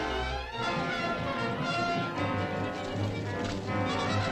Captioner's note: horses trotting